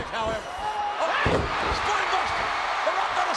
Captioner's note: spectators cheering